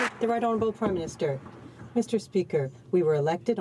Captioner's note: some Applause